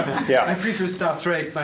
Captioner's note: laughs